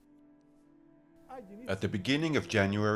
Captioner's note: speaking in foreign language